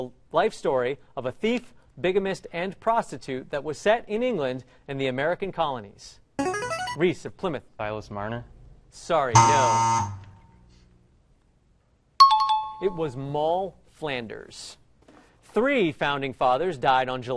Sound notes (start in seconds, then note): 6.4 ringer; 9.3 buzzer; 12.2 timeout jingle